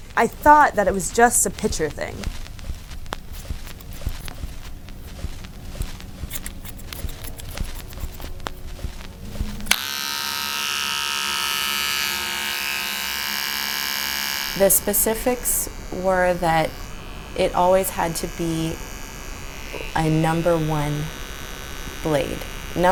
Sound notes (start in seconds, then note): 2.8 cutting sounds; 9.5 electric buzzer sounds